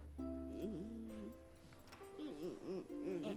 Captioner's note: pandas groaning softly